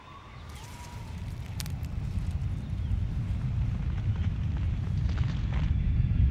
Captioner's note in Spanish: temblor